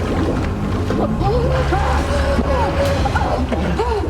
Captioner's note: gasping